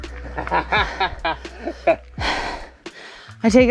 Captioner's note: laughs